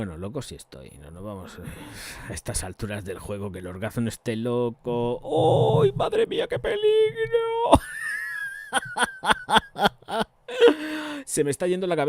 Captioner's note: laughs